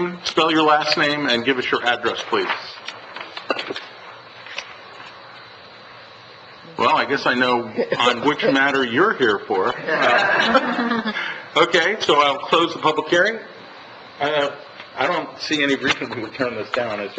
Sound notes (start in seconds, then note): 9.7 laughs